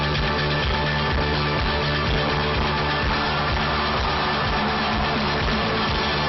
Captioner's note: applause